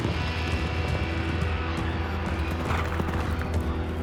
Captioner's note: crowd cheering